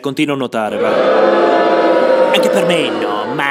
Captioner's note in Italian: folla urla